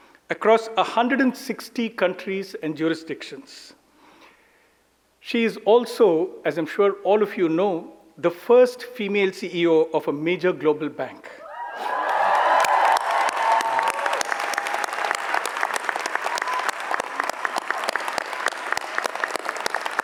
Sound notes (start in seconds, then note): 11.4 audience cheers; 11.5 audience applauds